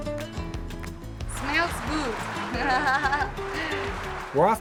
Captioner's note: laughs